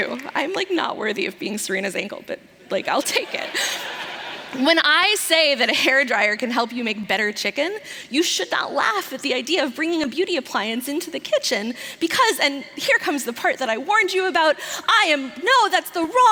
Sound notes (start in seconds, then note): 0.0 applause; 3.1 laughter